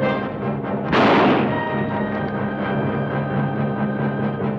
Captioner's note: bow twangs; gun fires